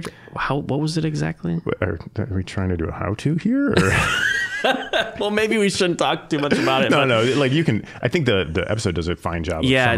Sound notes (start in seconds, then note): 3.8 both laughing